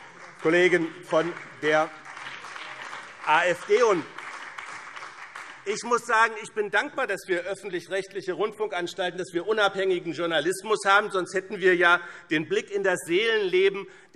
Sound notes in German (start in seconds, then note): 4.0 Beifall BÜNDNIS 90/DIE GRÜNEN